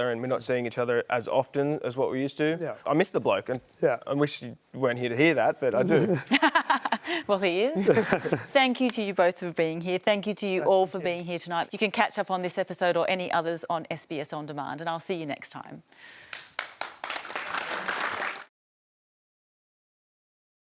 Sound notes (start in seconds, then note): 7.8 laughs; 16.2 applause